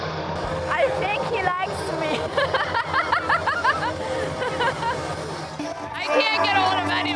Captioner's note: laughs; laughs